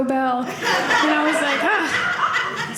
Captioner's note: audience laughing